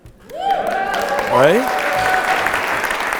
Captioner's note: audience applauding